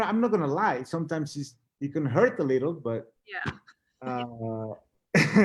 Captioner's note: laughs